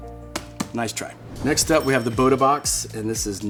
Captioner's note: bell dinging